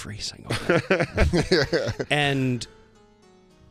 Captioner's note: laughter